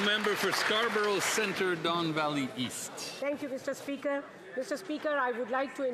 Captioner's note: cheering and Applause